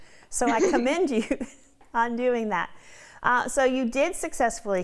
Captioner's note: laughing